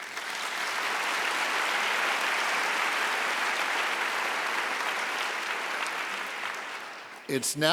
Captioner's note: applause